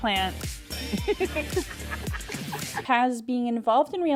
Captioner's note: laughing